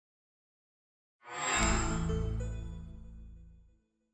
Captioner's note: chime